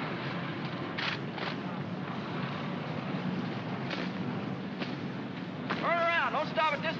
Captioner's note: jeep rumbles